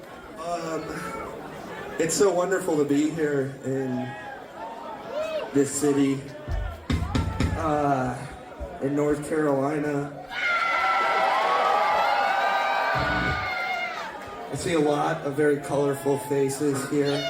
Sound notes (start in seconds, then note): 11.5 crowd Cheering